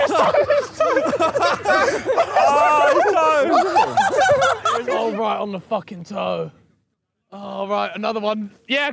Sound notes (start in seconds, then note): 0.0 laughs